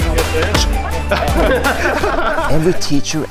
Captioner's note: laughing